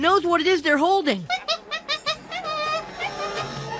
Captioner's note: monkey chattering